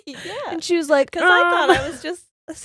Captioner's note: laughs